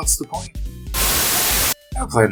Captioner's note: Static